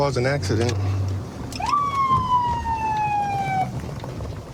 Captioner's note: sirens blaring